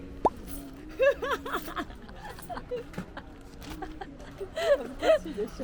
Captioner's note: laughs